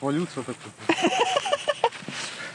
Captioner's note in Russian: смех